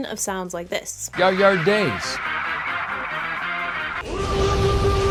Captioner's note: pronounced oddly